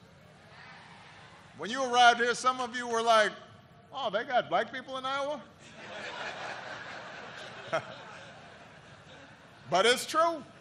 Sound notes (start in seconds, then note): 8.6 laughter